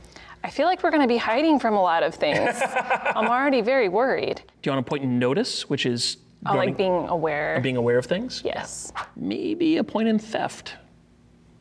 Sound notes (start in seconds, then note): 2.3 laughing